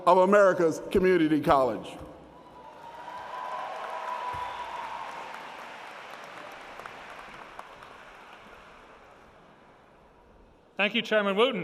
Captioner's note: applause